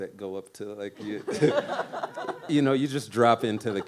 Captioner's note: laughs